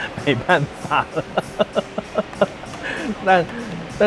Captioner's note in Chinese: 吃不下的笑聲